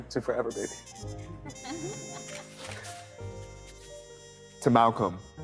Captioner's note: guest laughing